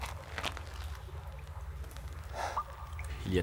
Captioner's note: sighs